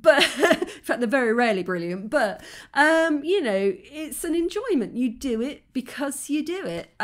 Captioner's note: laughing